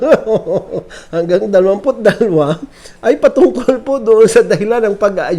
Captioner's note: laughing; laughs